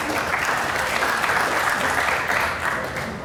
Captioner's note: applause